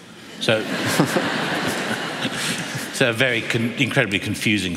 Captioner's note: laughter